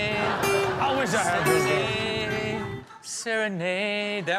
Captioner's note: serene guitar; audience laughing